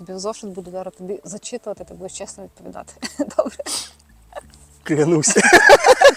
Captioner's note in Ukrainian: сміх